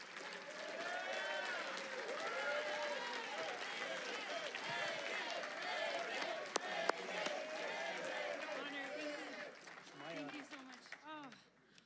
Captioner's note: Audience chants "Megan."